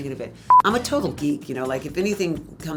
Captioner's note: tone beeps